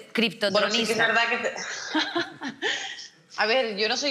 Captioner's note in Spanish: ríe